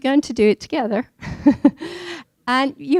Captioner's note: laughing